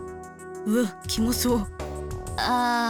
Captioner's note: shudder